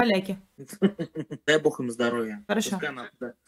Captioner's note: idiotic laugh